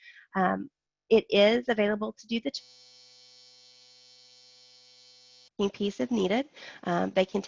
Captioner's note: loud buzzing